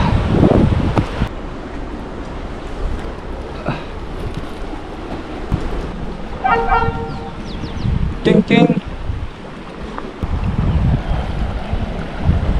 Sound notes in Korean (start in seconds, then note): 6.4 기차 경적